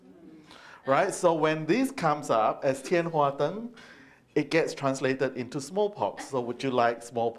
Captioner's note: speaks Chinese